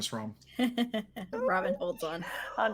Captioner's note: laughing